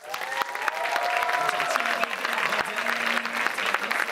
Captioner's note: applauding